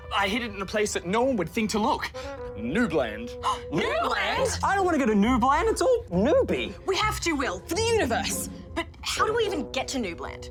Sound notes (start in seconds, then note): 3.3 gasps